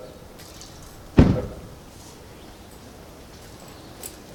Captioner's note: car door slams